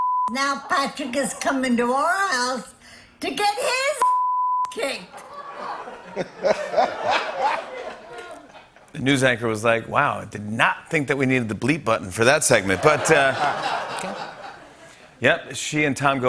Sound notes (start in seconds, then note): 5.1 laughter